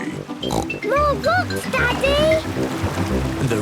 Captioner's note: snorts